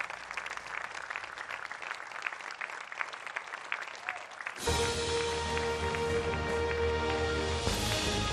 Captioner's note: applause